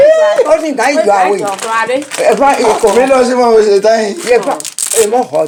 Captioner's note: laughs